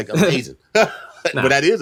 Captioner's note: laughing